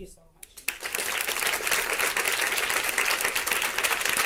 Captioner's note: audience applause